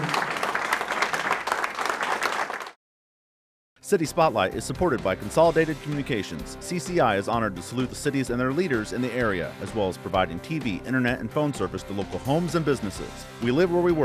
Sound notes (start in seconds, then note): 0.0 applause